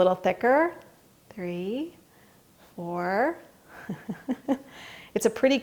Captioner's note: laughs